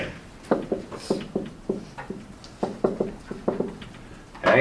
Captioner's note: marker thudding